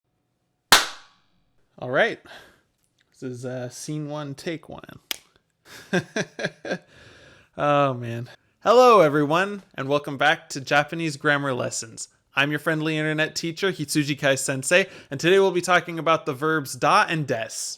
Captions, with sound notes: *clap* Alright, this is scene one: take one *click* [Laughter] Oh, man. Hello everyone! And welcome back to Japanese Grammar Lessons! I'm your friendly internet teacher, Hitsujikai Sensei, and today we'll be talking about the verbs "da" and "desu."